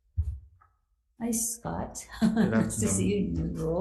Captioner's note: chuckling